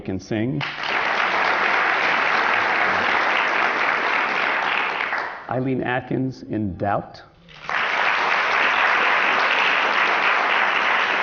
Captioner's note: applause